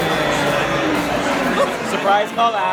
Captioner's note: crowd chatters loudly